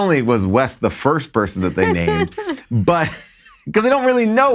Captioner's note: laughs